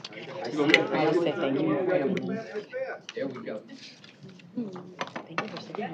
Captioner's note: indistinct chatter